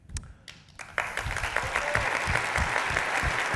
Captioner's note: cheers and applause